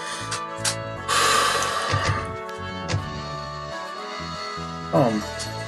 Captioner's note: breathes deeply